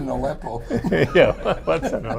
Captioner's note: laughter